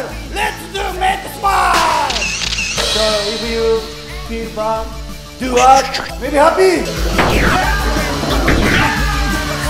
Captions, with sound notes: Let’s make smile! [camera sound] So if you feel bad, do art. Makes you happy! [explosion sounds and yelling]